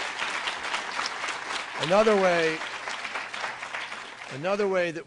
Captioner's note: applause